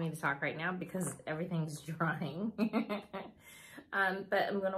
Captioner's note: laughs